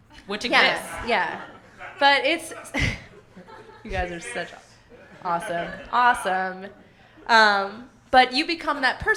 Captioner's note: laughs